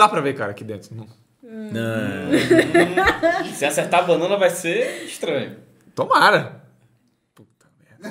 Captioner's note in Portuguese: risos